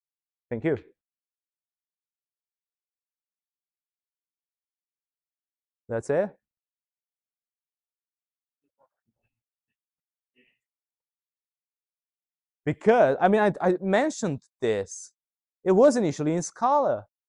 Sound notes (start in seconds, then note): 4.0 silence; 10.1 silence